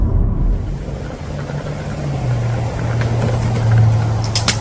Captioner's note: traffic humming